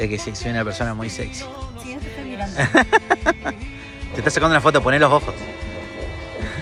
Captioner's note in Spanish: risas